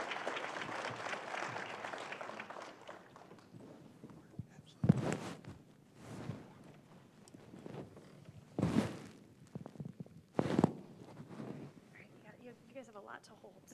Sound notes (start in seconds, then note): 0.0 applause